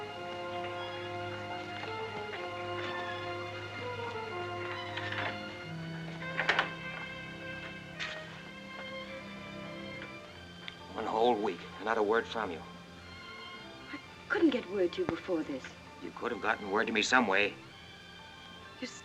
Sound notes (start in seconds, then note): 0.3 soft ominous music; 6.1 door closes